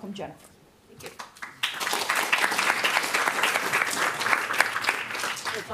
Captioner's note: audience clapping